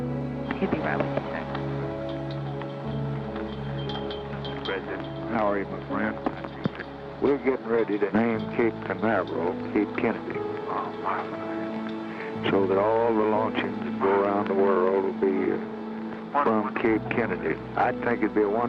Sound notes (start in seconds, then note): none